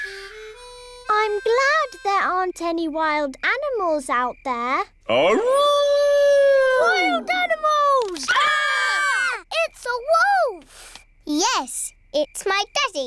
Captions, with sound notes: I'm glad there aren't any wild animals out there. -(HOWLING) -Wild animals! -(ALL SCREAMING) -It's a wolf! Yes, it's my daddy.